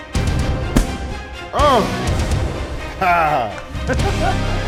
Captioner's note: intense suspense music; upbeat rock music; kick thudding loudly; laughing